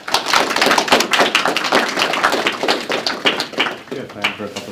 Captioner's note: applause